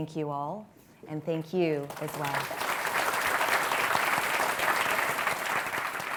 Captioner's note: audience applauding